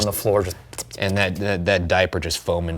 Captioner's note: mimicking tiny baby feet sprinting